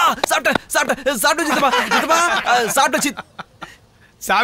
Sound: laughs

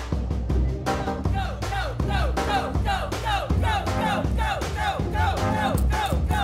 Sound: diners chanting

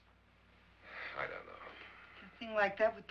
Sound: sighs

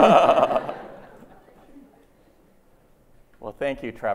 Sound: laughter

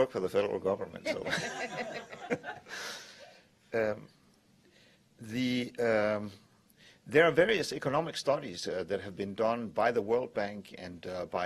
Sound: laughter

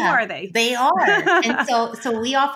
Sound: laughs

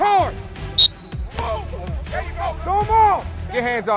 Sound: whistle

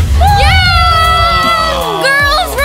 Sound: cheering

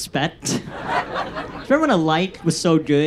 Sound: audience laughs

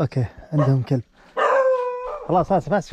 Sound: dog barks

